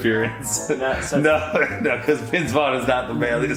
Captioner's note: laughs